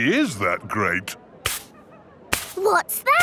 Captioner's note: brushing